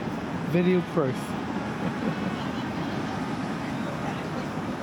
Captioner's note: laughter